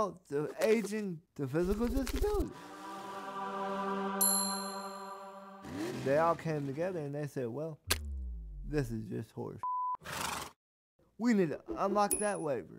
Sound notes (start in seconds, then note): 4.2 bell rings; 10.1 horse nickers